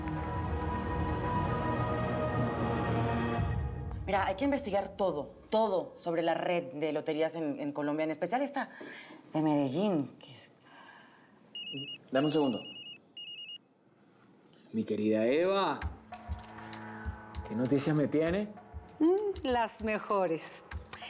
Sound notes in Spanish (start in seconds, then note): 11.5 Suena el celular